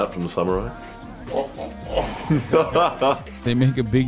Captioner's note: laughter